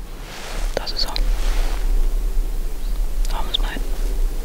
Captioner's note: whispers